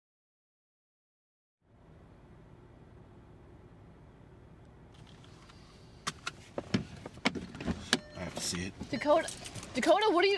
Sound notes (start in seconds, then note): 6.0 car dings; 6.0 seat belt shuffles